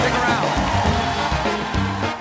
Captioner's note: cheers and applause